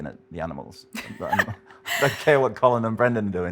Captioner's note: laughs